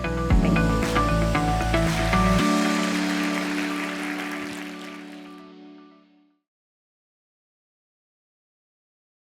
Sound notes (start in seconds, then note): 3.1 attendees applauding